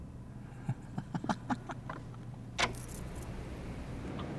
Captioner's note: Donovan laughs